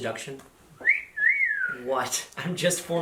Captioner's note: wolf whistle